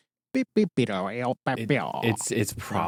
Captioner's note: mimics drumming